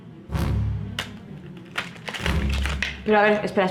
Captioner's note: aggressive shuffling